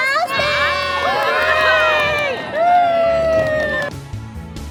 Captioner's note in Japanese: 大歓声